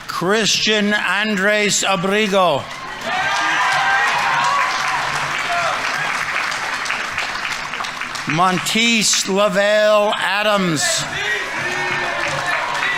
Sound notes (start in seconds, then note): 2.2 audience members cheering; 2.6 audience applauding